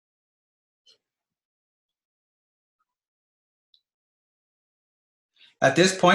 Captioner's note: short silence